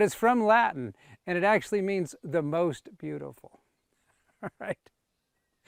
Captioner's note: laughs